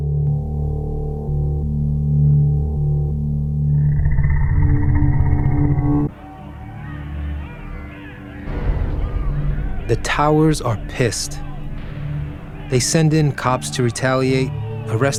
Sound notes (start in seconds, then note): 0.9 residents shouting; 0.9 soft uneasy music